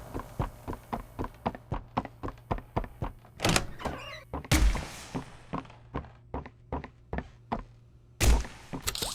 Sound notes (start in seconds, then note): 2.6 gunshot